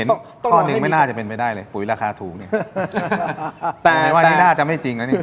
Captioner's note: laughter